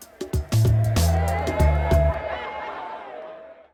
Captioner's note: cheering